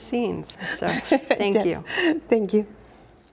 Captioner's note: laughs